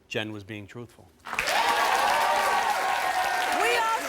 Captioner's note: audience applauds